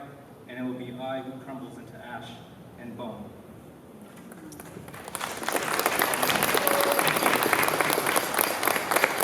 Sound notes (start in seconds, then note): 4.2 applause